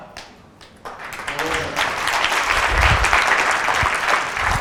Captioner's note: audience applause